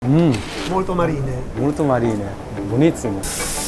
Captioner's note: Italian